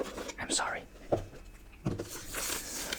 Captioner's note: whispering